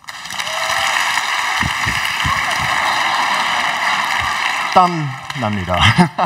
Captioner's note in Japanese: 拍手と歓声